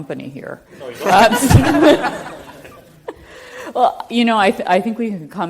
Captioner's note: everyone chuckles